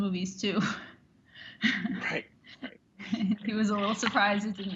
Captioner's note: chuckles